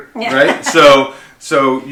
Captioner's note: laughing